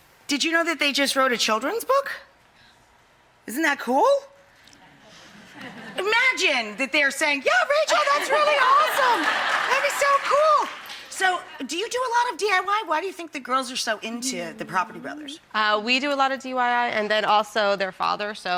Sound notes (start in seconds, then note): 4.8 crowd chuckles